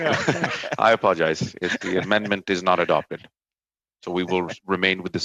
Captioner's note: laughter